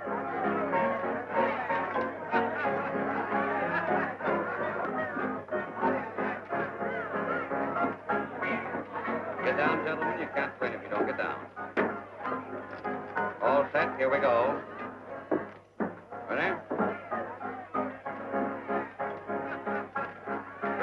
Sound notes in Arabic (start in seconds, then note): 0.2 الموسيقى المبهجة تلعب بصوت أعلى; 3.2 الزبائن يضحكون ويثرثرون